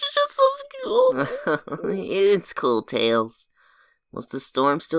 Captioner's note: chuckles